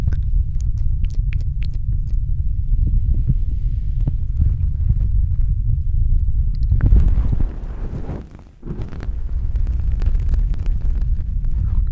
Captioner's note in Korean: 두근두근